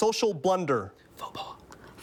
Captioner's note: whispers